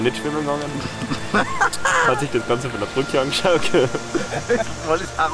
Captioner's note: laughter